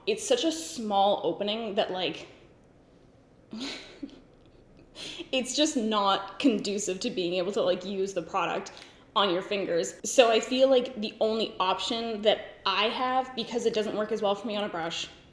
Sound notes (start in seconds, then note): 3.5 giggles